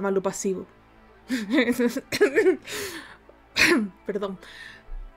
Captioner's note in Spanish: risa de degenerada, ponganme a dormir